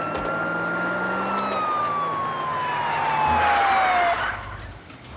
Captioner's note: tires screeching